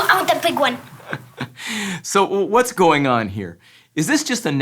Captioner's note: laughing